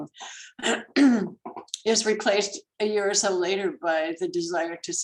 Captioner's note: clears throat